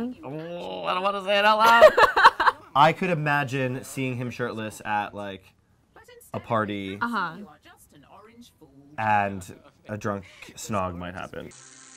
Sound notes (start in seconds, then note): 1.9 laughs